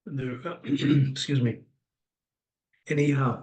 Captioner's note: clears throat